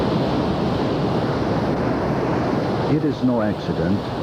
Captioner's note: sound of breaking waves